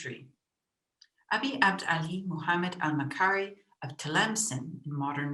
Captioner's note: speaks in foreign language